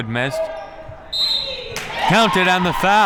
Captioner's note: whistle